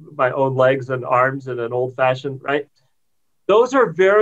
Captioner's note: murmurs